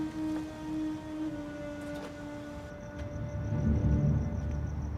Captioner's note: insects chirping